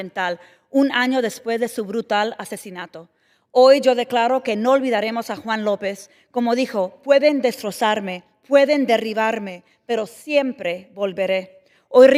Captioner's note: speaking spanish